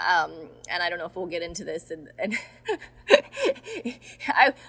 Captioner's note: laughing